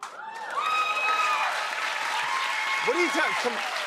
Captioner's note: cheers and applause